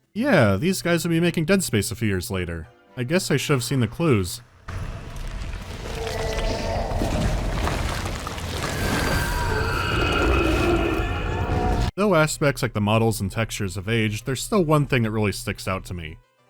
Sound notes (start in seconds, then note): 5.5 ghastly moaning; 8.6 screeching wail